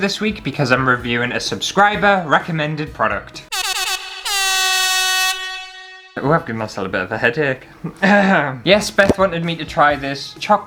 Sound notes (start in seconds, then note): 3.6 air Horn Sounds